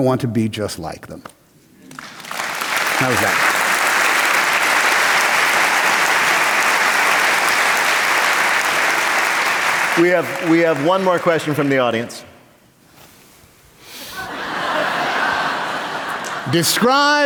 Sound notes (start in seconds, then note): 3.4 applause; 12.6 laughter